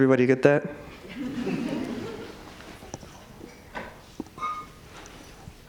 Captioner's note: audience laughs